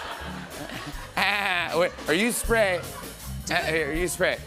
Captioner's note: laughter; imitates dolphin